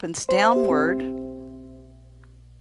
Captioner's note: computer ringing